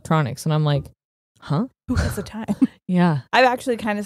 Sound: chuckles

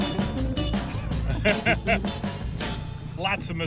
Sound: laughs

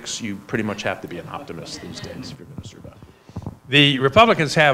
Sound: laughs

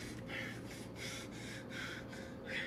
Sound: whispers in English; panting

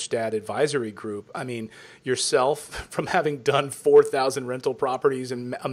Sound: laughs

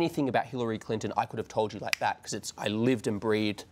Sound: snaps fingers

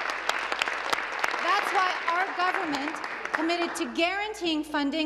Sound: applause

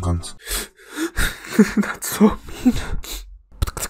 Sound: sobbing

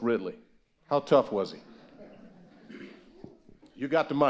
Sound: audience laughing

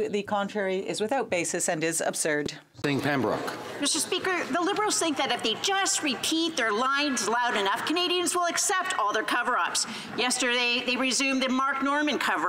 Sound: some Applause

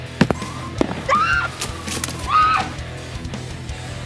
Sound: more snowballs here and there

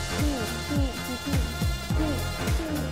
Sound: holding their breaths

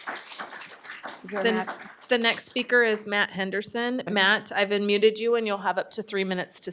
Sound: applause

